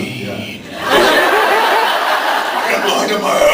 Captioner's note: laughs